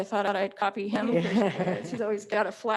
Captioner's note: Trustees laughing